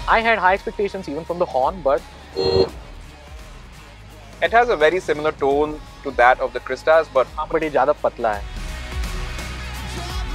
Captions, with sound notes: I had high expectation even from the horn, but... (honks) It has a very similar to the Crysta's. -But this is thinner.